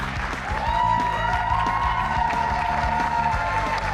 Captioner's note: cheers and applause